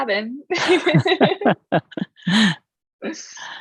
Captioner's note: laughs